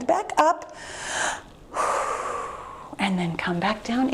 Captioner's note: exhales heavily